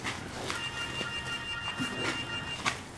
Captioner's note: phone ringing